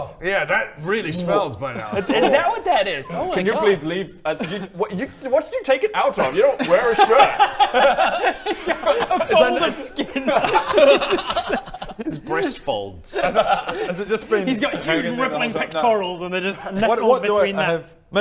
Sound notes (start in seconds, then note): 10.3 grossed-out giggles